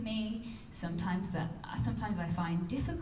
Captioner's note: none